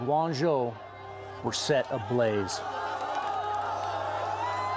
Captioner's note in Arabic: المتظاهرون يهتفون